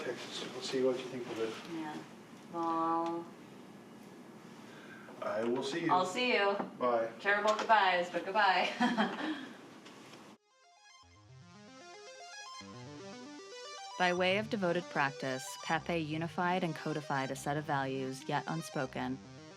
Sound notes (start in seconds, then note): 8.8 laughs; 10.9 chill electronic music